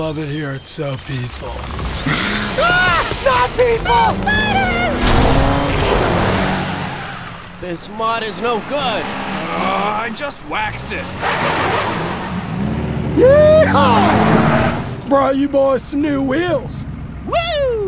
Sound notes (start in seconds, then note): 2.0 screaming; 2.7 hissing; 10.0 groans